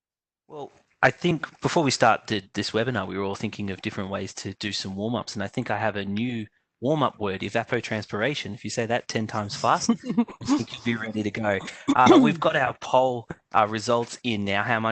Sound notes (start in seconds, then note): 9.6 laughter